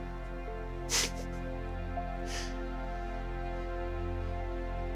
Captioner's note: soft music; laughing